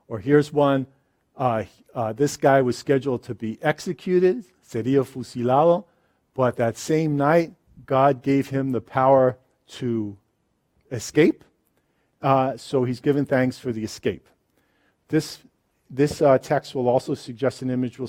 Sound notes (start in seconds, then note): 4.9 speaks in a foreign language